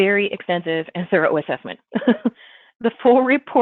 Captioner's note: laughs